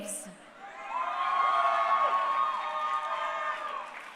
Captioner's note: crowd cheering